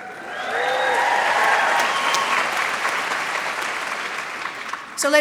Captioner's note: applause